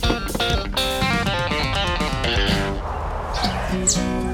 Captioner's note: impact; snap